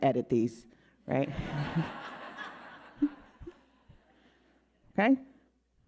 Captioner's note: audience laughing